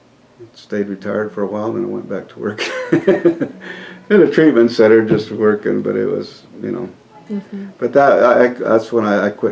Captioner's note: laughs